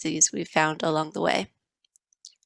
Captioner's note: silence